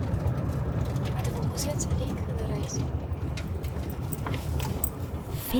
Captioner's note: in German